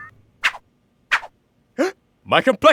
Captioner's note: gasps